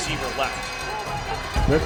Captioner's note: crowd